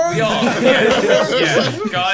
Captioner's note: laughing